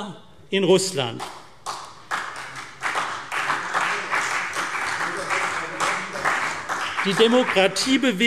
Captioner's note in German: Beifall CDU und BÜNDNIS 90/DIE GRÜNEN